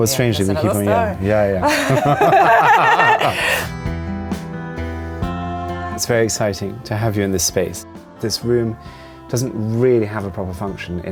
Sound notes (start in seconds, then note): 1.6 Viola laughs; 1.6 laughs